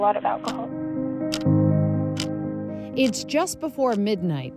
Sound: clock ticks

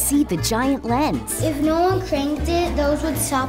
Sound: child voice

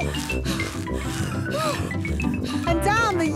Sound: puffing and panting

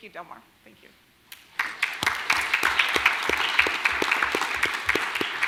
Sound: audience applauding

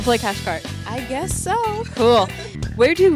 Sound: hesitantly

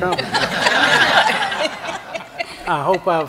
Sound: laughter

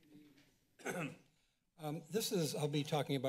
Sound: clears throat

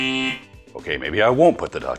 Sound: buzzer ringing

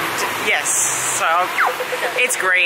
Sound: traffic lights noise

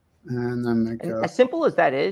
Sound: faintly speaking

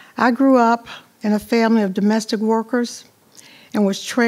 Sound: none

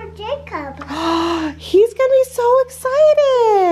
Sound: gasps

